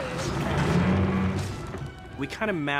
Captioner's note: bridge groans